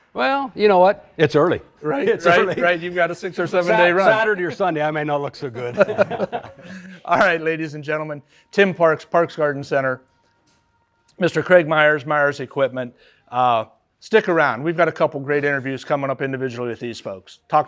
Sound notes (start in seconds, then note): 5.4 all laughing